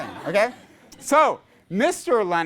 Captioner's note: class laughs